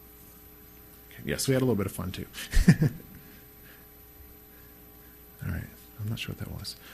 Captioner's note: laughs